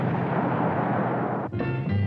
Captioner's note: engine rumbling; jazzy dance music